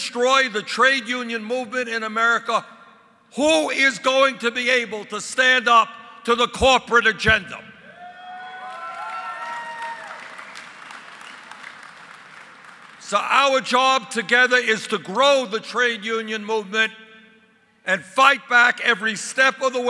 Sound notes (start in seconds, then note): 10.1 applause